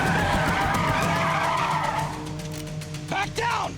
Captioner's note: tires screech